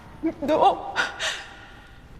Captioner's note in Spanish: Sollozos